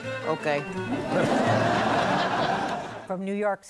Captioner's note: laughter